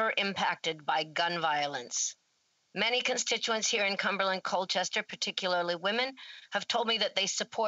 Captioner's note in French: voix de l'interprète